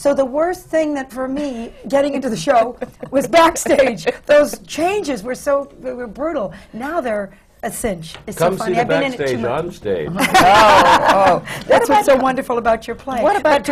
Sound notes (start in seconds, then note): 10.1 laughter